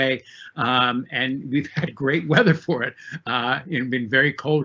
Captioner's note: laughs